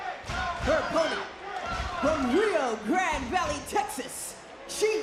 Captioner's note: crowd cheers